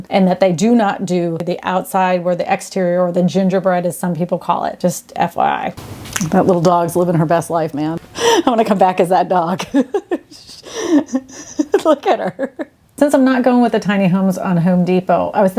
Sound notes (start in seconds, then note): 9.5 laughs